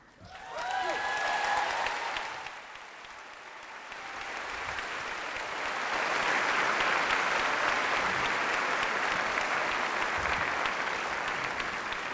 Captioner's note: applause